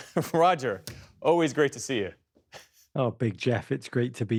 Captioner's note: laughter